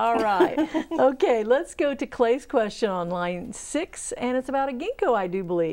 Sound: laughing

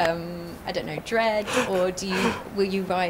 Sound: all laughing

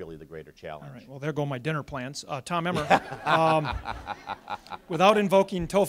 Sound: audience laughs

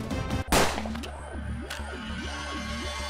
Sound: gun shot

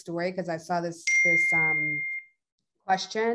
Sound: device pinging

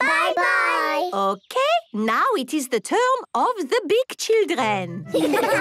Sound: laughter

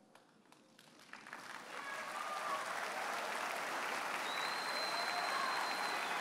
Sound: audience applauds and cheers

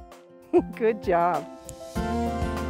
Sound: upbeat music; laughs

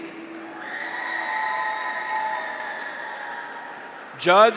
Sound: graduates cheer; audience applauds

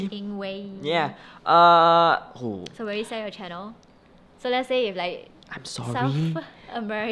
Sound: whispers

